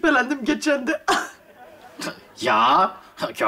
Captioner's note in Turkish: Gülme efekti